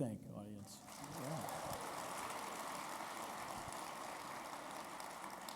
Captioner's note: audience applauding